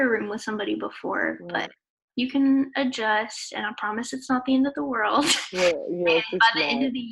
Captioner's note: laughs